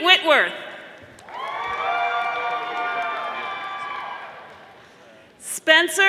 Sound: audience applauding

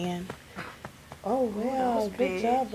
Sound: burp

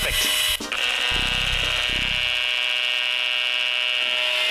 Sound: whirring

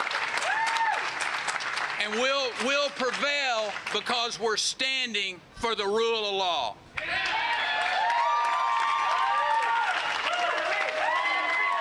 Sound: cheers and applause

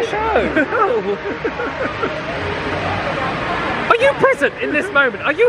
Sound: laughs

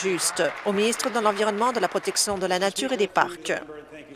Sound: applause

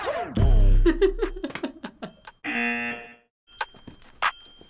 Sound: buzzer; chuckles

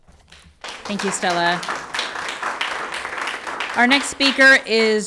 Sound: everyone applauds

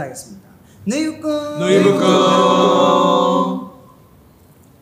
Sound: in Arabic

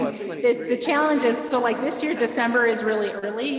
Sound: chuckling

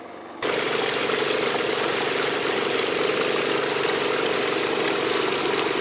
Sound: machine rumbles; water splashing

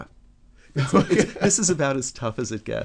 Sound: laughs

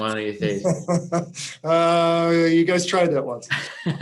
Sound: chuckling; chuckling

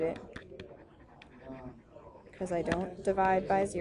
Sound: chatter

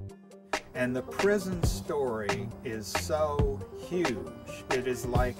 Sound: voiceover

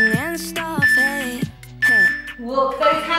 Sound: timer beeping

